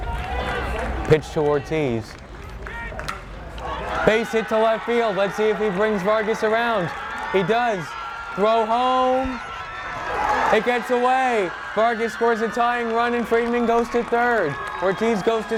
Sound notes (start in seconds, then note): 2.2 bat cracks; 5.3 crowd cheers